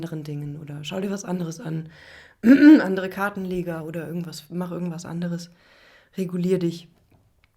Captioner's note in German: räuspern